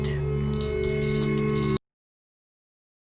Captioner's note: beeping